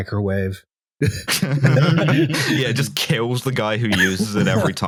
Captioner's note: laughter